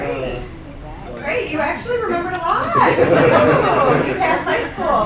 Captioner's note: laughter